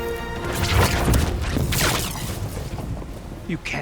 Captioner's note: sharp zapping